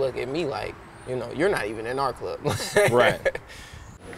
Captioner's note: laughing